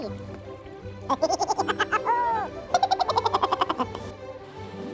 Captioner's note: laughing